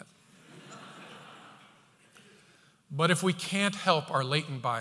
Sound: audience laughter

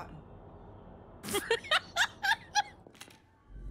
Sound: laughter

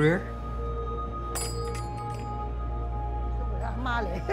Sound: bell rings

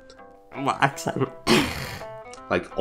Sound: scoffs

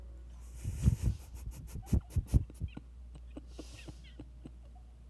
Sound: chuckling

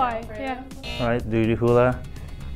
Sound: buzzer

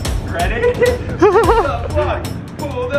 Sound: both laugh

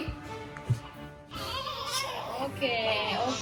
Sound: A symphony of crying twins

